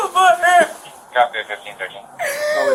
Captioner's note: radio chatter